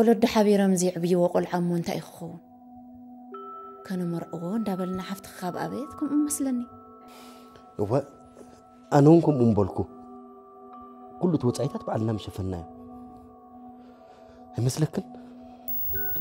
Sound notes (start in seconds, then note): none